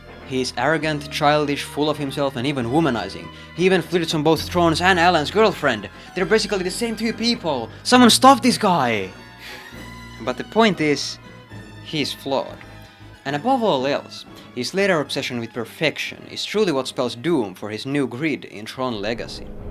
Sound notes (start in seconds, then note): 9.4 sighs